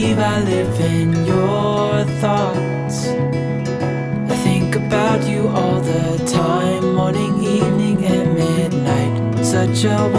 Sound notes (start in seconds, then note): none